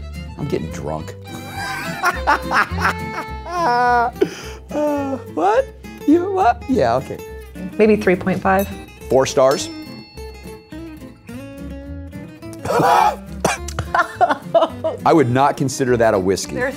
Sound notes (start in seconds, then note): 1.3 laughs; 12.5 chokes; 12.5 coughs